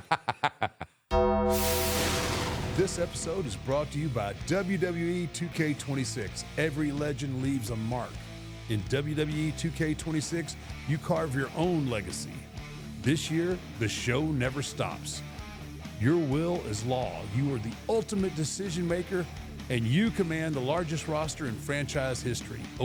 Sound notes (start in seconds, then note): 0.0 Michael laughs; 1.2 bell clangs; 1.2 logo whooshing